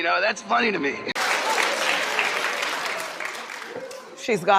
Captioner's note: clapping